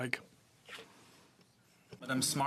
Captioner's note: speaking in french